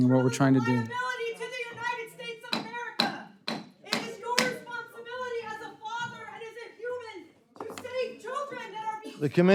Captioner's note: protest utterances